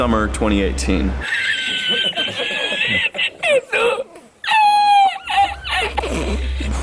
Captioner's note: laughter/dying